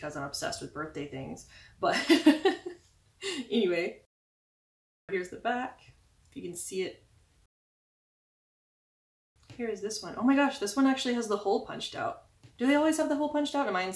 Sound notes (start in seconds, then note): 2.2 laugh